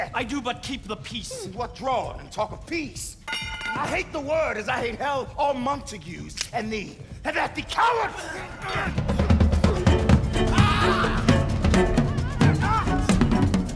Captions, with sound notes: I do but keep the peace. What, drawn, and talk of peace! I hate the word, as I hate hell, all Montagues, and thee: Have at thee, coward! [grunting] [shouts]